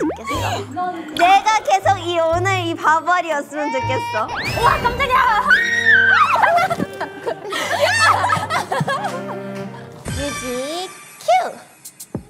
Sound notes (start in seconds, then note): 0.0 sob